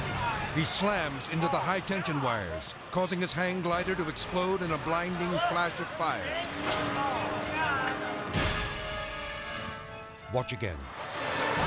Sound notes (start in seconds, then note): 6.3 people shouting; 10.9 electricity crackles